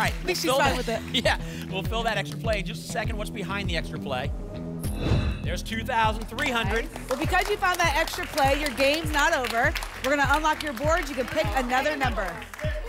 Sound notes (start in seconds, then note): 4.7 whoosh